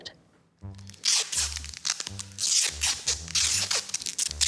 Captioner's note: tape squeaks